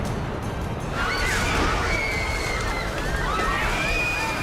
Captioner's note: screaming